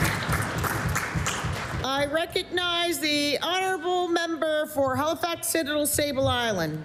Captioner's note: applause